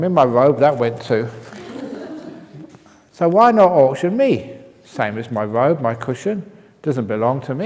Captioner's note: laughs